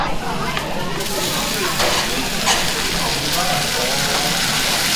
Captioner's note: sizzling